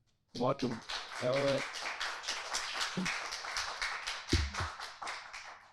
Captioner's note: audience applauding